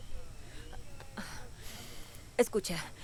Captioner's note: Resopla